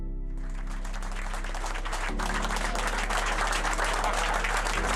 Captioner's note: crew applauding